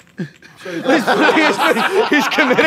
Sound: laughter

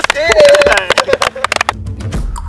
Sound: clap

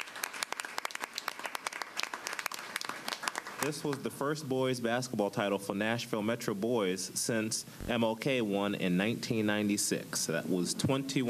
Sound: applause

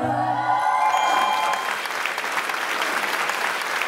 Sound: a round of applause

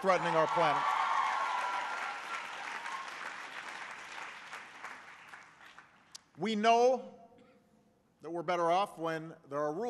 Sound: applause

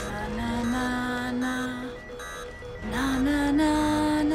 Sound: monitors beeping

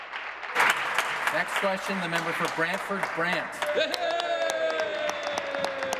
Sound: applause

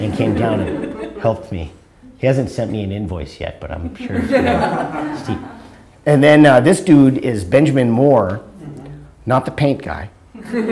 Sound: audience laughter

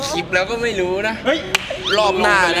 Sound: pat

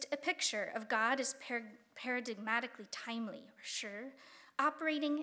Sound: speaking Chinese

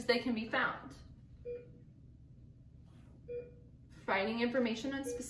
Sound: beeping

